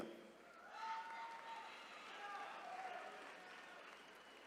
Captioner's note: attendees cheering